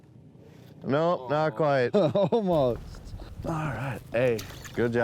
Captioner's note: laughing